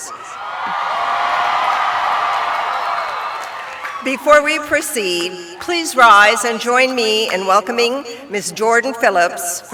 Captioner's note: cheering